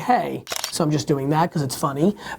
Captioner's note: shutter click